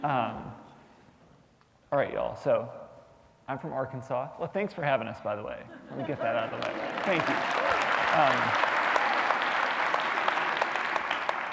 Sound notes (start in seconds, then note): 4.1 applause